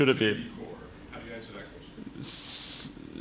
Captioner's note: voiceover